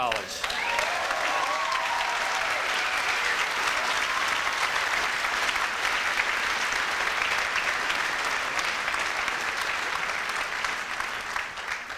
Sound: audience applauds

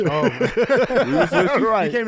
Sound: group laughing

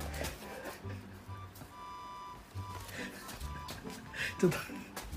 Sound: laughs

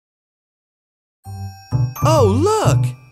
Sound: chimes ringing

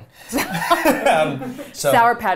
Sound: all laughing

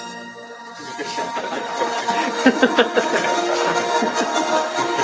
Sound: laughter

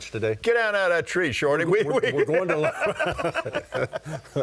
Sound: laughing

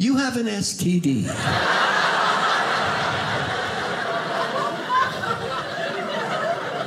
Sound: audience laughing

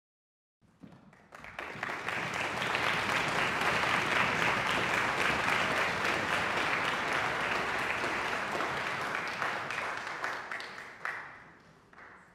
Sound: audience applause

